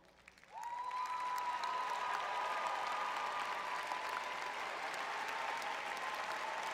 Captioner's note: audience cheering